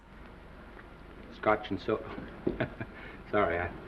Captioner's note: Norman chuckling